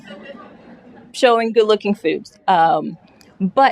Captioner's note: laughter